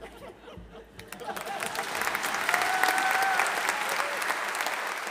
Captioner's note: audience applauding